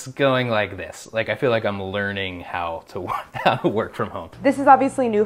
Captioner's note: laughs